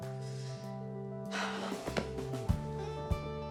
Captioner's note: sighs